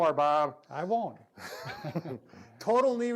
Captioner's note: laughing